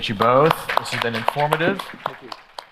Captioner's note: audience applause